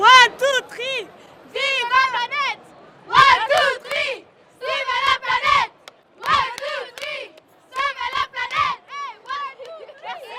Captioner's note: chanting in French